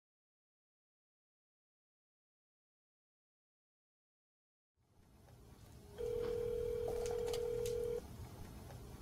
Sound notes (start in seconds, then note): 5.9 phone rings